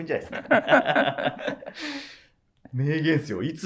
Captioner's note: laughing